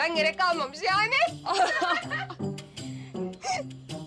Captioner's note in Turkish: Gülme sesi